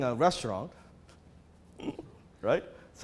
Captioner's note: laughs